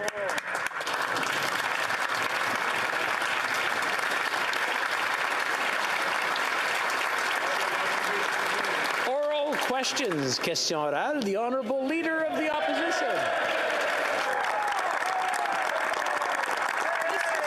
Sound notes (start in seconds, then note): 7.9 applause